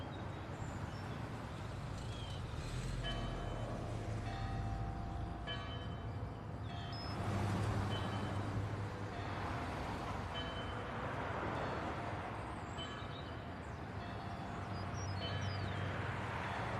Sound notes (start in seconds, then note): 4.2 bells chiming